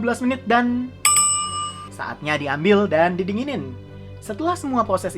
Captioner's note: ding ding!